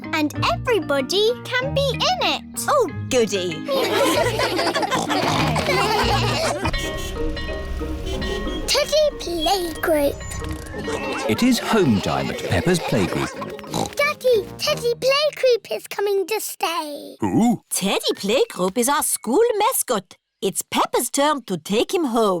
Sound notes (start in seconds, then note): 3.7 laughter; 4.7 snorting; 7.4 car horns beeping; 10.8 oinks